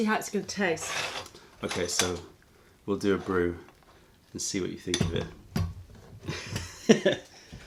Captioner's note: laughter